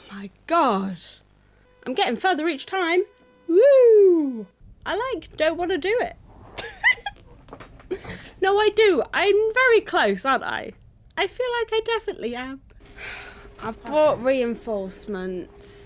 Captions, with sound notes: My god! I'm getting further each time! Wooooo! I like, don't wanna do it *laughs* No I do, I'm very close aren't I I feel like I definitely am! I've brought reinforcements